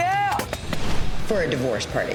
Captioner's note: pop!